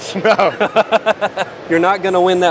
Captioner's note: laughing